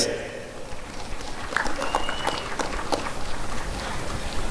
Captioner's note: applause and cheering